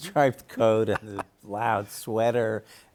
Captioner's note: chuckles